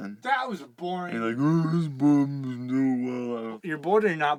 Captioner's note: grumbling